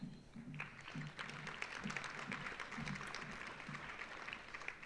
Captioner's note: audience applauding